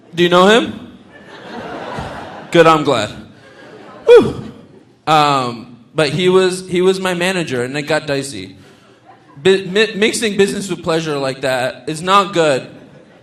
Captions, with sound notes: Do you know him? (audience laughing) Good, I'm glad (sighs). But he was my manager and it got dicey. Mixing business with pleasure like that, it's not good.